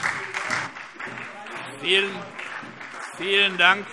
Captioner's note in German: Beifall SPD und DIE LINKE